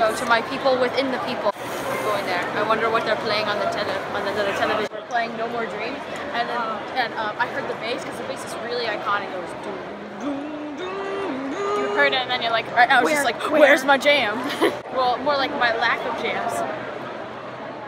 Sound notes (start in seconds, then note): 10.2 imitates bass